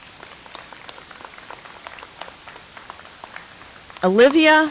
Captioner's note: audience applauds